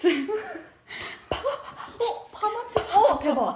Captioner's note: ha ha ha